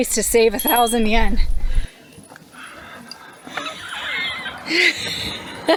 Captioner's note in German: Gelächter